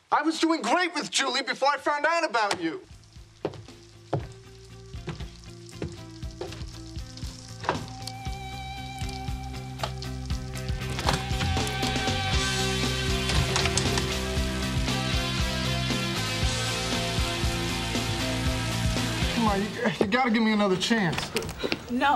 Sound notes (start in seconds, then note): 5.0 rain falling; 5.0 rock music playing